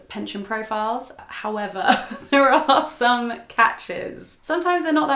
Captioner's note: giggles